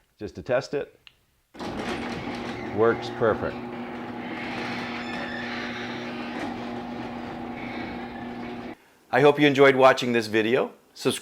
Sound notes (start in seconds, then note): 1.8 garage door rambling